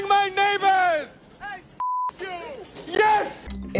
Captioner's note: beep